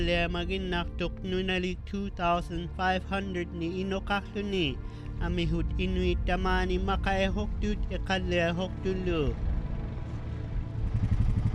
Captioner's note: speaking inuktitut